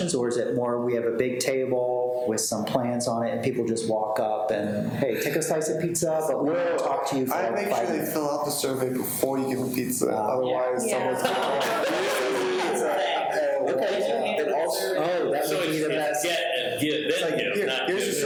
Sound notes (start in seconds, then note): 12.5 people laughing